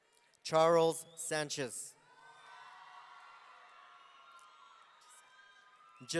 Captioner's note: audience cheering